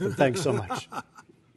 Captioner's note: laughter